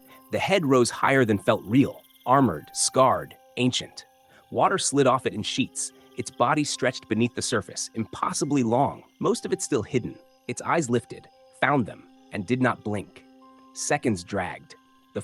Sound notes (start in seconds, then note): 13.4 pause